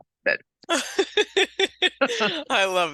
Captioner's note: laughing